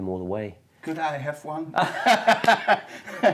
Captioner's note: lacht